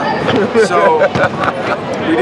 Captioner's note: laughter